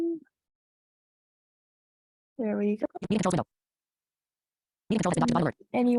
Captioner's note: screen reader in the background speaking very quickly